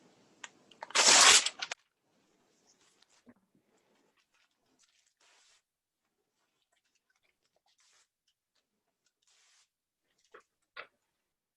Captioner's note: sound of ripping paper